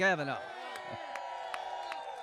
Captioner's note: cheering and applause